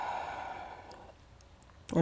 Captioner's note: deep breathing sounds